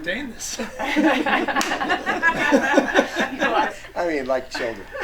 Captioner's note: group laughing